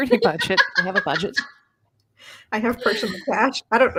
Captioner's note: laughs loudly